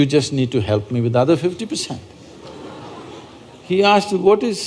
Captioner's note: laughter